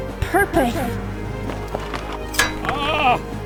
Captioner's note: running